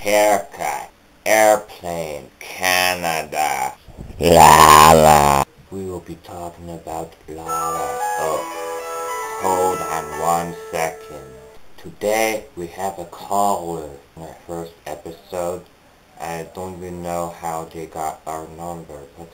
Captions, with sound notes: - Haircut. Airplane. Canada. Llama! - We will be talking about llama- oh, hold on one second. (ringtone interruption) - Today we have a caller, on our first episode? I don't even know how they got our number,